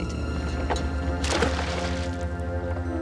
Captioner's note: splash